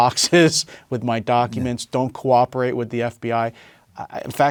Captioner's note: laugh